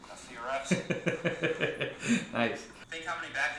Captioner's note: laughs